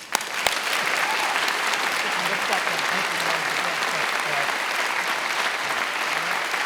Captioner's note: attendees applauding and cheering